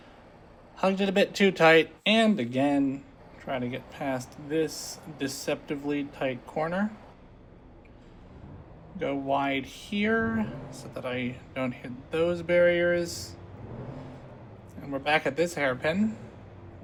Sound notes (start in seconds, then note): none